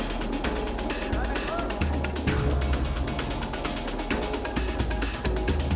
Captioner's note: man shouting indistinctly